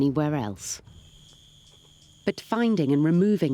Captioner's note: insects buzzing